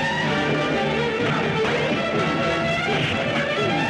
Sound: fighting Sound

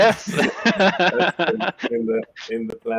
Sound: both laughing

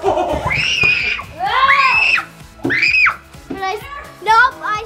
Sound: screaming

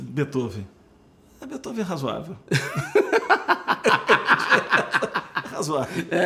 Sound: laughs

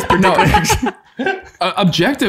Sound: all laughing

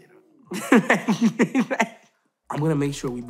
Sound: laughing

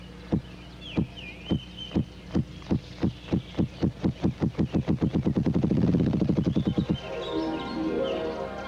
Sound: grouse drumming

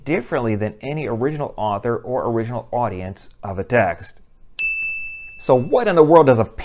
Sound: chime

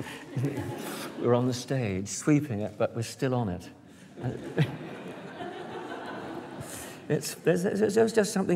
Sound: laughter

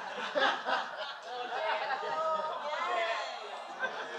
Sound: laughter

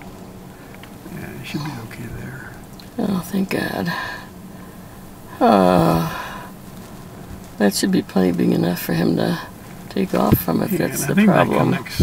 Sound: relief laugh

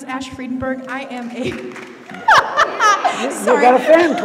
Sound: laughs

